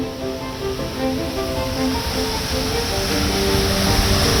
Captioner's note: water rushes